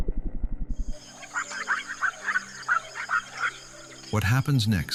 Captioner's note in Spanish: Sonidos de la selva